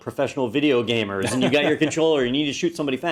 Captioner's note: laugh